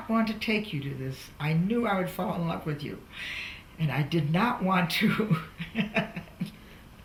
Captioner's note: laughs